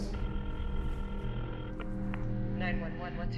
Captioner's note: ringing